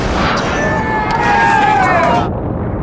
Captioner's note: cheering